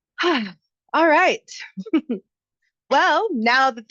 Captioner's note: chuckles